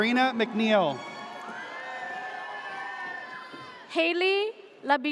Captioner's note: audience cheers